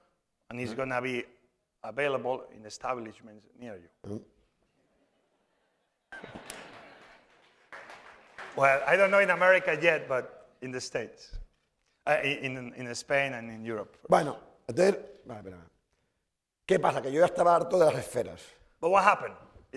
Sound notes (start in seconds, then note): 14.3 speaking spanish; 17.0 speaking spanish